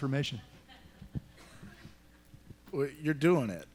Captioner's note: laughter